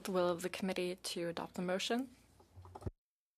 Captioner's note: speaking in French